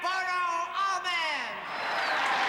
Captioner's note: cheering